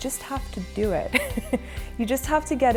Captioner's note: laughs